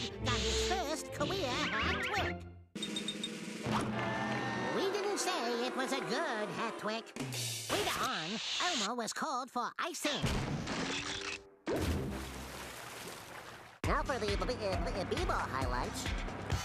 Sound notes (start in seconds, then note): 3.7 crowd jeering; 11.7 water splashing